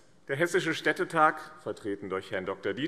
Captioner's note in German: none